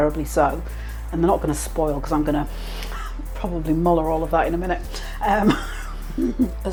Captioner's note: laugh